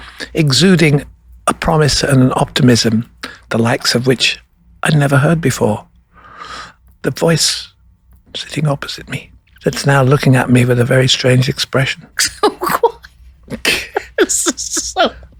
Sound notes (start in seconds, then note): 7.4 whispering; 8.8 normal voice; 13.4 laughing